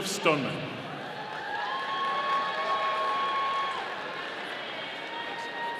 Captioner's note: audience cheering